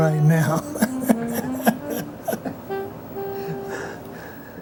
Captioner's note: laughs